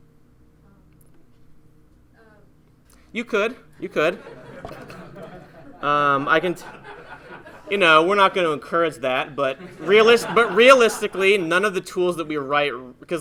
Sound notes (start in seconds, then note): 3.8 laughing